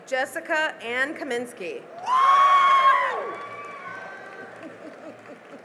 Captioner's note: cheering and applause